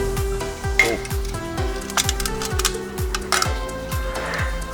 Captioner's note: metal tearing